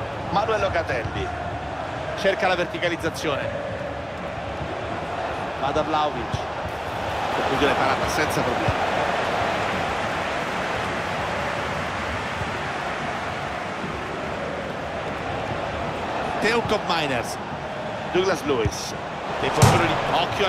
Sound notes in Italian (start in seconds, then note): 7.2 Applauso